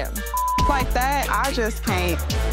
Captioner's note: beep